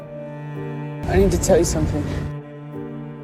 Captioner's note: voiceover